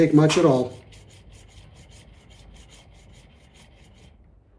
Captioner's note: scraping